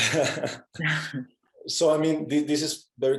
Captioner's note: both chuckling